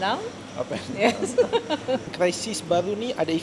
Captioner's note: laugh